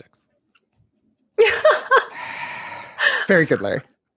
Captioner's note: laughs